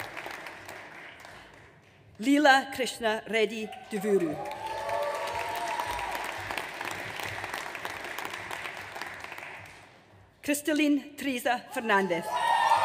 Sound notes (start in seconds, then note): 3.8 audience cheers; 12.2 audience cheers